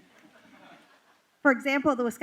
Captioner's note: laughter